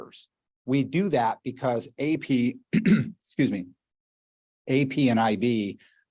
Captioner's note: clears throat